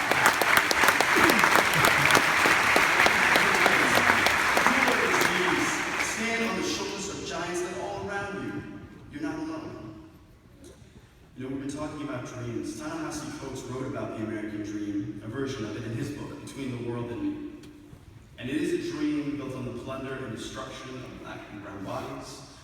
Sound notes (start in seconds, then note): 0.0 continued applause